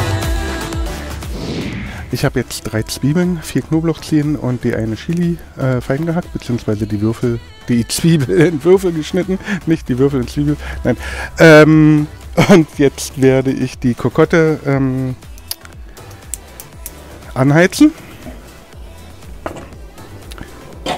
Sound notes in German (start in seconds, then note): 11.8 lacht